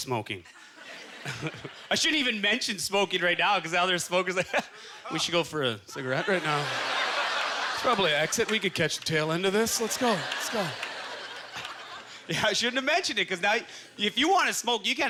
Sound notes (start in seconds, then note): 9.2 audience chuckling